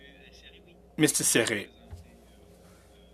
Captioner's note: speaking French